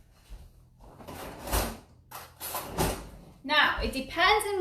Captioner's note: materials clanging